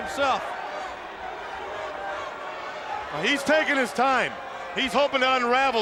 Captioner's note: applause